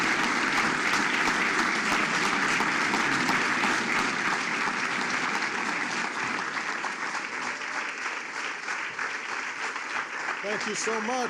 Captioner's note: applause